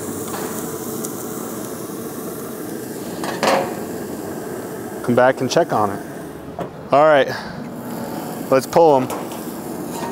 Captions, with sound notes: (steaks sizzling) Come back and check on it. All right, let's pull 'em.